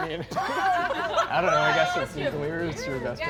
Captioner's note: all laughing